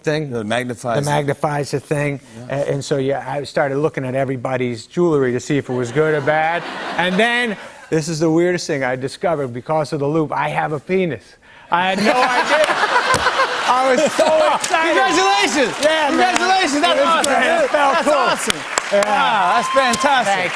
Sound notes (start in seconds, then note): 5.7 laughter; 11.9 laughter; 15.6 cheers and applause